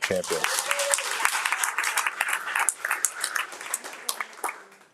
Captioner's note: audience cheering